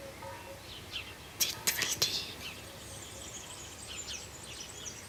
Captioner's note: non-english speech